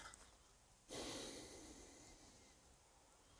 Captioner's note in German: Geräuschvolles Ausatmen